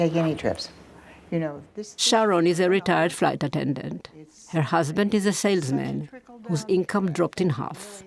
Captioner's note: voice-over